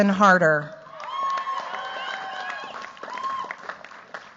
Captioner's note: cheers, applause